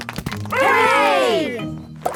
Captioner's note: crowd applauding